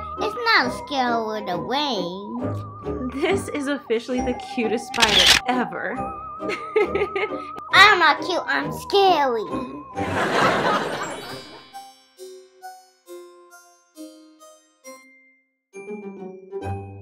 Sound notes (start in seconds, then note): 6.9 laughing; 10.0 audience laughing